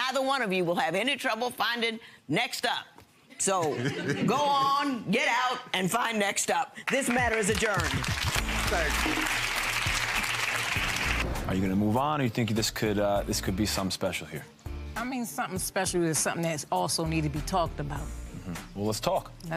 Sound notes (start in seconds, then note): 7.0 audience applause